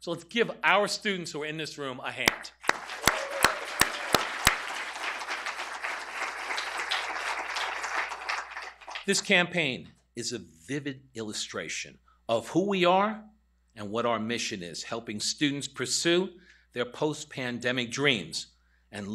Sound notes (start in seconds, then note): 2.2 applause